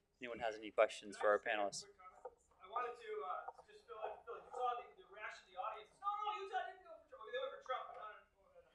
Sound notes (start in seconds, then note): 1.8 someone speaking off microphone